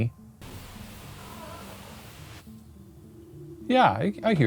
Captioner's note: distorted voice